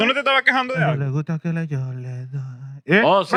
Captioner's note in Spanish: Hablando en idioma extranjero